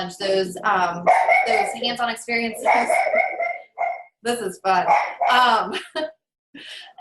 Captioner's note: dog barking in background; dog continues barking